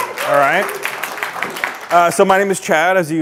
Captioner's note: audience clapping